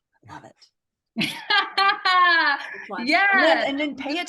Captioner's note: laughs